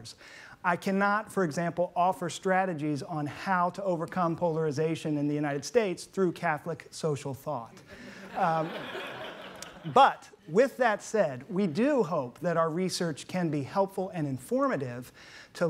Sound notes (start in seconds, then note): 8.0 laughing